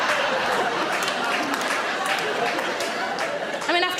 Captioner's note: audience laughing; audience applauding